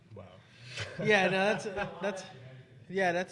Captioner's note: panelists laughing